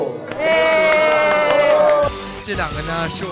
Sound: ladylike cheers

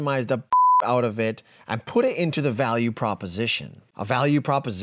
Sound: beep

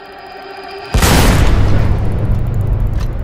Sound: gunshot

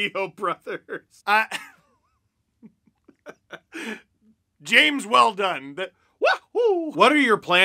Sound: laughs

